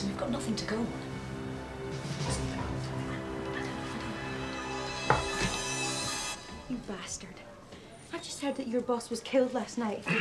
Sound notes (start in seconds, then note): 2.8 officers chattering quietly; 2.8 soft intense music